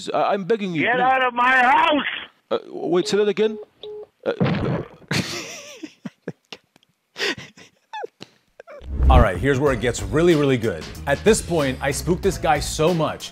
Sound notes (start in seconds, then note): 3.0 phone call ends; 7.2 laughing